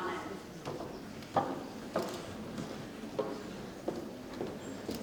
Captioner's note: shoes tapping